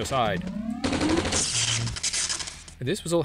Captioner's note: gunfire and tesla coil sounds from c&c red alert